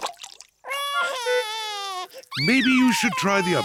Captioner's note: cries